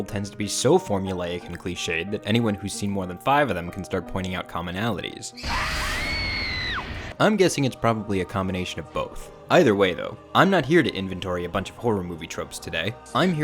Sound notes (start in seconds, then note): 5.3 screams